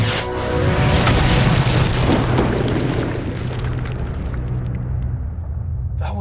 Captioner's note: dramatic music; explosion blasts; feedback whistles